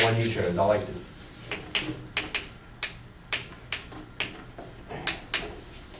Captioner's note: chalk clicking on board